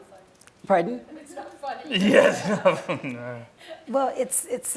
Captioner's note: laughing